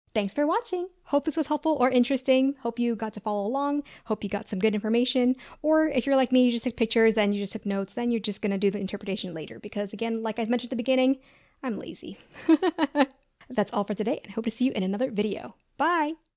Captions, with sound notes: Thanks for watching! Hope this was helpful or interesting. Hope you got to follow along, got some good information, Or if you're like me, you just took pictures and notes and you're just gonna do the interpretations later. because like I mentioned at the beginning... I'm lazy (laughs) That's all for today, hope to see you in another video! Bye!